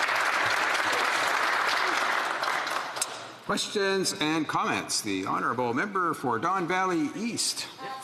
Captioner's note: applause